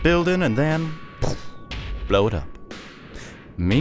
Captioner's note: poof